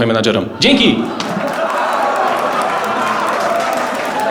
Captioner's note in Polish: brawa widzów